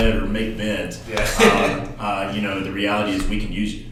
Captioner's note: laughs